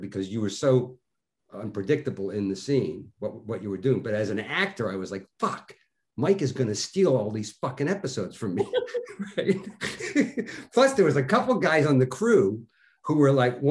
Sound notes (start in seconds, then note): 8.5 both laughing